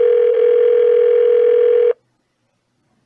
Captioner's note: phone still ringing